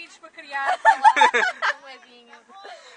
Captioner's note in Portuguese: Risos